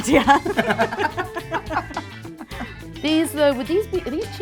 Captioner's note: both laugh; laughs